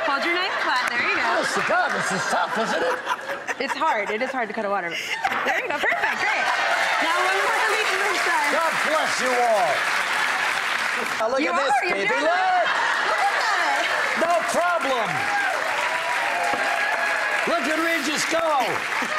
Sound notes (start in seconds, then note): 6.3 crowd cheering; 13.7 crowd cheering